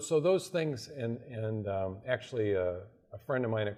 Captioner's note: none